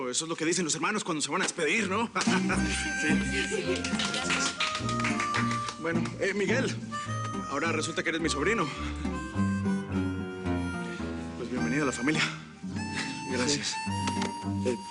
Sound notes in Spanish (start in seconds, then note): 3.2 Risas; 3.4 Aplausos